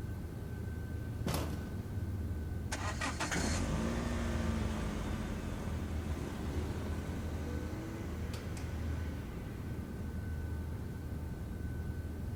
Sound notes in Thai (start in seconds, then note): 2.7 เสียงเครื่องยนต์ของรถทำงาน